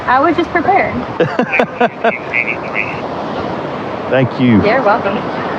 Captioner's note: lauaughghing